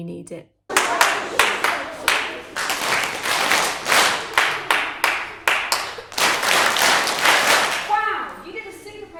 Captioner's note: teacher claps rhythmically, children respond